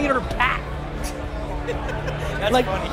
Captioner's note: laughs